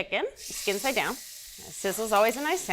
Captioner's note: chicken sizzling